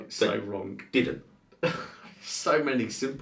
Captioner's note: man laughs